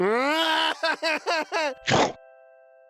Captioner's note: cries